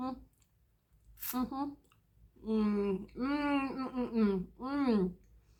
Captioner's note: happy mouth noises